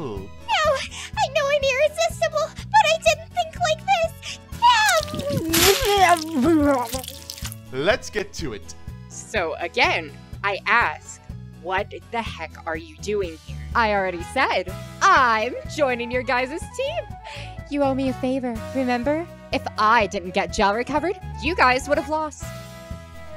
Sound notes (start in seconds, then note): 4.6 Creamy shouts as she is torn apart